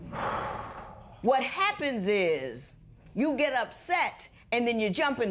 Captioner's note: exhales